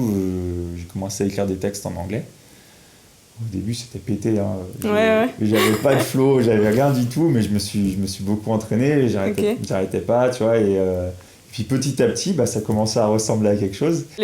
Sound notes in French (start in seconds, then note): 5.5 Rires